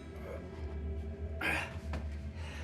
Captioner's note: Ben grunts; tense music